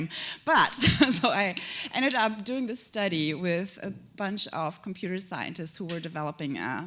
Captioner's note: chuckle